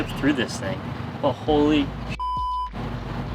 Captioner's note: beep